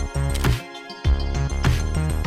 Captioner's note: shutter